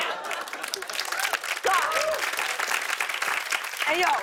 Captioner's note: cheers and applause